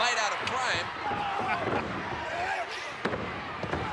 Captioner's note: laughing